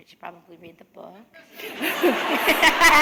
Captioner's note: laughter